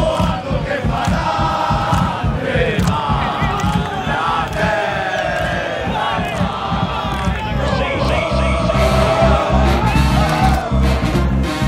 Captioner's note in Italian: Applauso